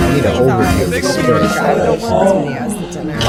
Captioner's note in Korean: 앓는 소리